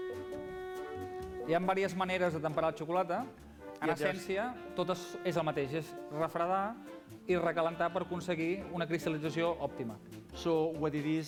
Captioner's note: non-english speech